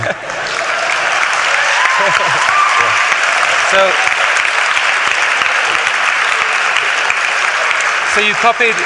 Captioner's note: applause